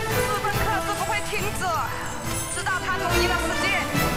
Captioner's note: chain clinking